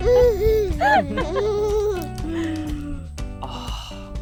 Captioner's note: laughing